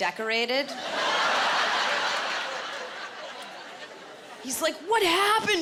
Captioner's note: laughter